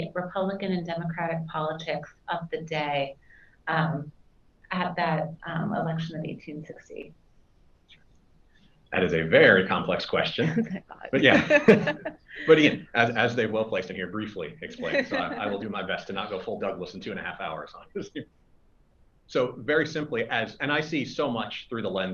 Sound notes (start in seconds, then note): 11.1 both laugh